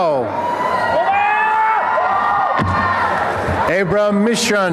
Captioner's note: applause and cheering